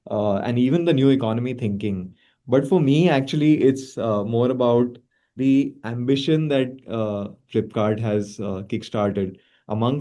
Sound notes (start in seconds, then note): none